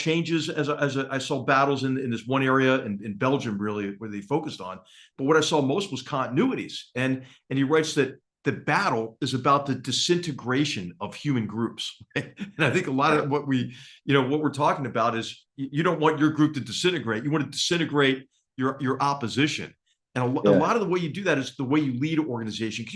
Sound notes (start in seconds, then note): 12.1 laugh